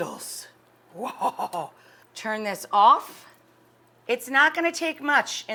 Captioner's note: laughs